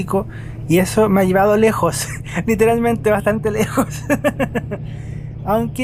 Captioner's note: laughs